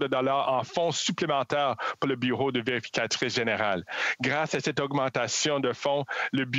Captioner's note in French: voix de l'interprète